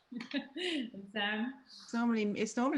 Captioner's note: laughs